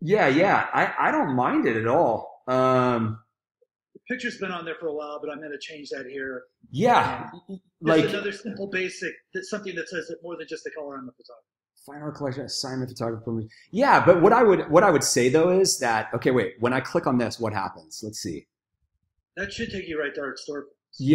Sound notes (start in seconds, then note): 11.1 speaking faintly